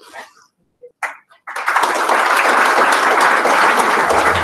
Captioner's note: applause